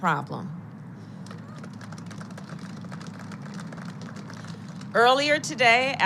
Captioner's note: applause